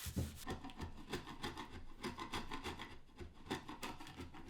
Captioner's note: scalpel scraping